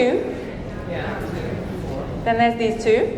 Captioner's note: audience chattering